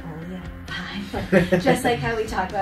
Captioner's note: interviewer laughs